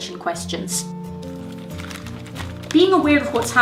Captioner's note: pages crinkling